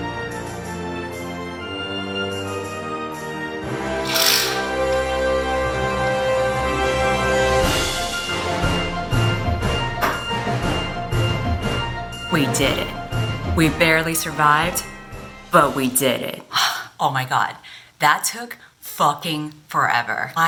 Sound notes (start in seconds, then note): 16.6 𝘴𝘪𝘨𝘩